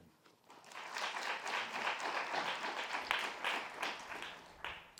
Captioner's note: audience applauding